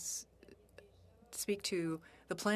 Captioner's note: speaking FRENCH